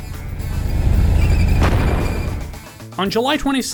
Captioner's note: tank fires